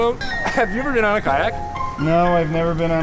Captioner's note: laughs